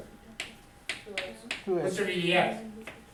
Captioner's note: voiceover